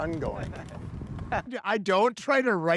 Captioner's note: laughs